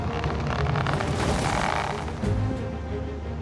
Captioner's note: creaking